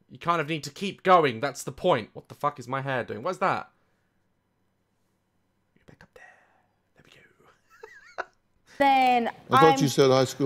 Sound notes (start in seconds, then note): 5.8 whispers; 7.5 laughs